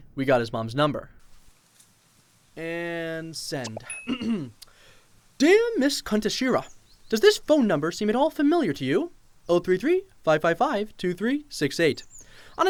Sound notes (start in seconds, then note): 4.0 clears throat